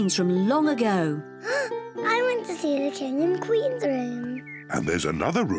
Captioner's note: gasps